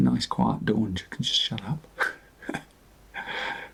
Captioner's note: chuckles